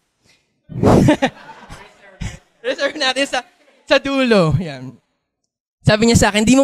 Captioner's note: laughter